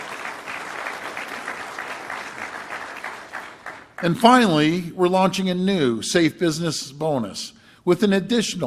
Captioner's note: applause